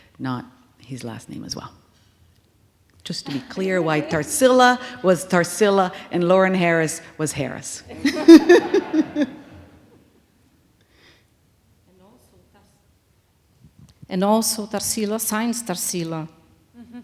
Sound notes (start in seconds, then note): 7.9 laughing